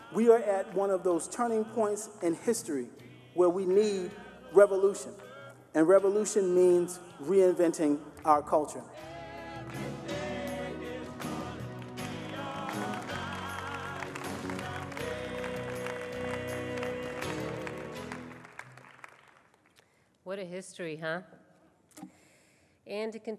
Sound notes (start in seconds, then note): 9.3 singing; 14.4 applause